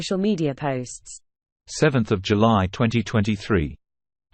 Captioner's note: british male voice